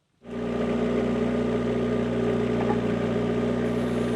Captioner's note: vehicle rumbling